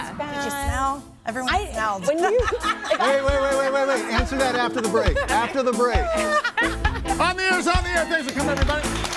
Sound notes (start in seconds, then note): 2.0 everybody laughing